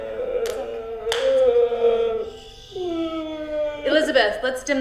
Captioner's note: David crying